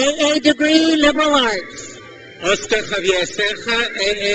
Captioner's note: crowd cheers